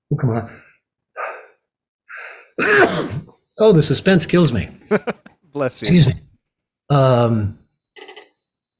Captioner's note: sneezes loudly; chuckles